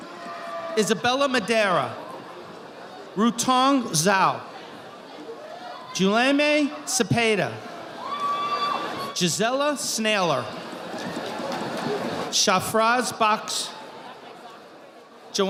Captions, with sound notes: Isabella Madera. Rutong Zau. Julemay Cepeda. (audience applauding) Gisela Sneller. Shafraz Boch.